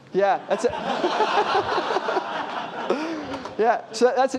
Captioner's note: laughter